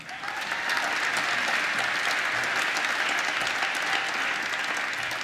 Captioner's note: applause